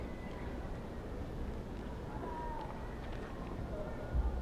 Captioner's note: cheers and applause